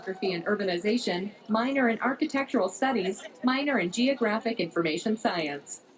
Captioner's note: none